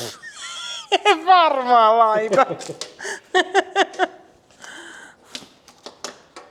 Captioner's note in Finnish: naurua